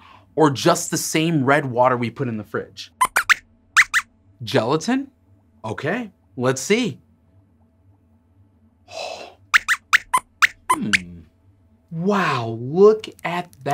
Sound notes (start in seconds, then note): 3.8 squeaks squeaks; 9.6 squeaks squeaks